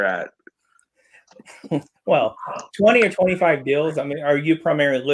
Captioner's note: chuckles